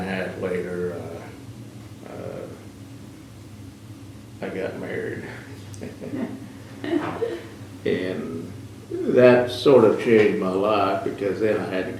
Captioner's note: laughter